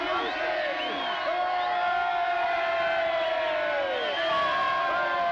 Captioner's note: voices cheering